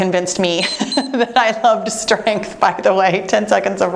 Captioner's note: timer beeps